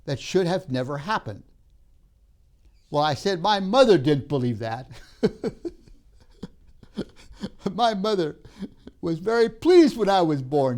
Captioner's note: laughs